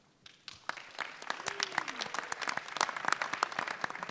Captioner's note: audience clapping